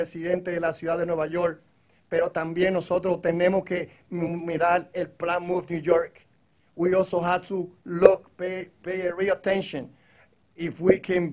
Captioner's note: speaking in foreign language